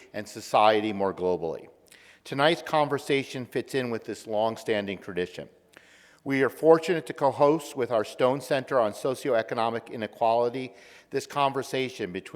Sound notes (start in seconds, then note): none